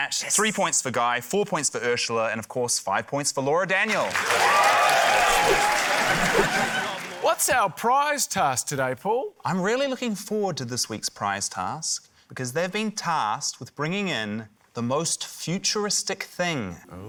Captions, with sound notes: - Yes! - ...three points for Guy, four points for Urzila, and, of course, five points for Laura Daniel. (CHEERING, APPLAUSE) What's our prize task today, Paul? - I'm really looking forward to this week's prize task, because they've been tasked with bringing in the most futuristic thing.